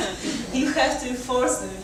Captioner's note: audience chuckles